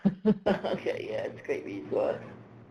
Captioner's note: laughs